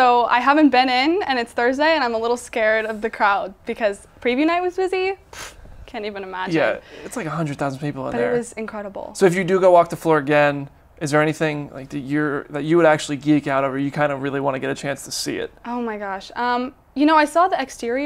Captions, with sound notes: So I haven't been in, and it's Thursday, and I'm a little scared of the crowd because preview night was busy (scoffs), can't even imagine. - Yeah, it's like 100,000 people out there. - But it was incredible. - So if you do go walk the floor again, is there anything, like, that you would actually geek out over, you kind of really wanna get a chance to see it? - Oh my gosh. You know, I saw the exterior